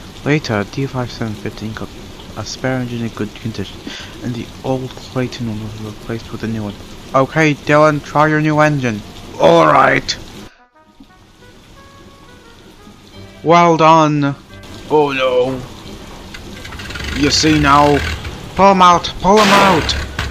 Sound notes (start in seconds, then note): 16.3 engine stalls